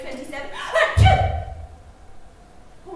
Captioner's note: sneezes